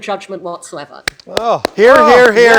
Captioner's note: applauding